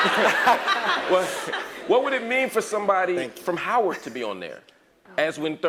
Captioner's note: laugh